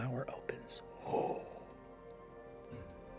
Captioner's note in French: pouf